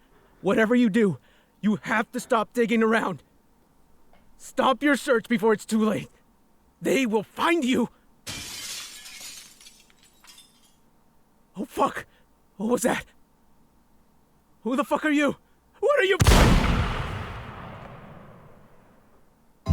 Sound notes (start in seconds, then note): 8.2 glass pane breaks; 16.2 loud gunshot